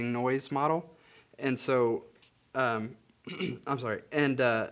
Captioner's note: clears throat